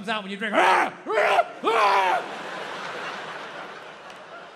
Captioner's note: Bill grunts